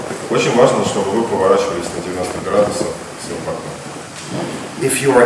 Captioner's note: speaking in a foreign language